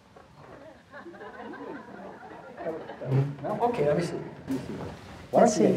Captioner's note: audience laughing